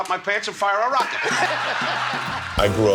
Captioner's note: laughing